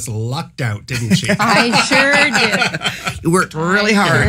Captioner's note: laughs